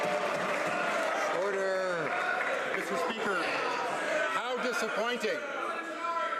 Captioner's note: some Applause